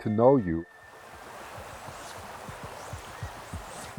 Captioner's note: sound of fly rod casting